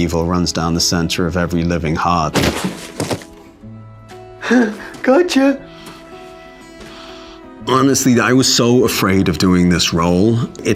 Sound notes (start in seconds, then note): 2.3 body thuds